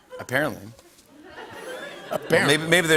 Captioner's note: laughter